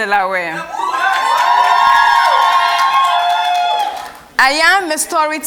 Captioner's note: cheers and Applause